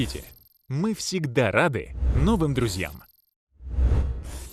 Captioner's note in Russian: звук колокольчика